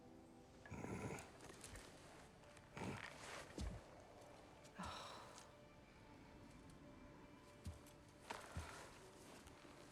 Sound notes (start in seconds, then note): 0.6 grunt; 4.8 sigh